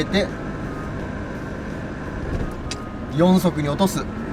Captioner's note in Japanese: エンジン音